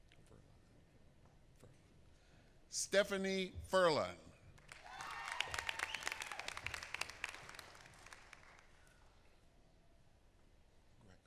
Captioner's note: applause